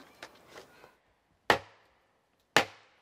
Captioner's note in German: Hämmern